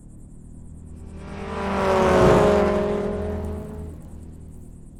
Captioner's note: car engine rumbling